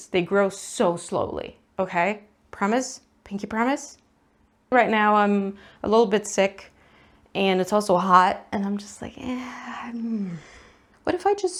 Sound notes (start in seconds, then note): 9.2 dramatic laziness noises